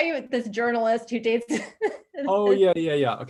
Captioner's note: chuckles